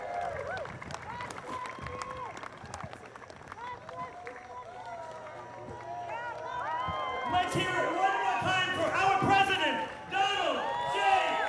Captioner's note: applause